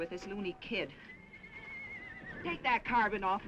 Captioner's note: horse neighing